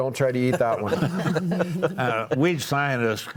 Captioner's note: panelists laughing